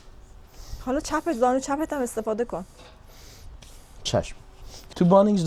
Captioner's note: snorting sound